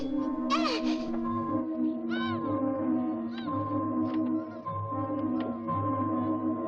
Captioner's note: Sandy gasps; dramatic music; muffled yelling